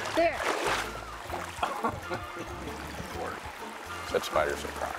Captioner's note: laughing